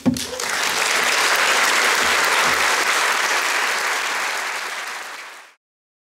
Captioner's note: applause